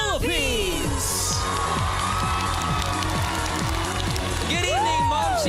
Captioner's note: audience applauding